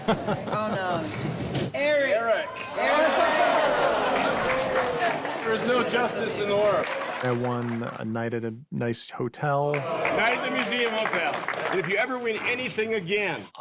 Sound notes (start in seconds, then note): 2.3 crowd clamoring